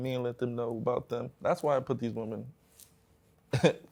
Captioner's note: chuckles